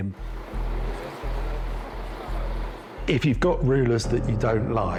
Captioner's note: tank rumbles